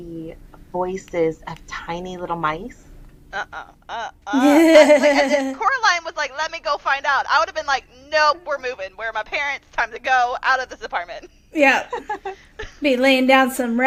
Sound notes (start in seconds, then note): 4.3 laughing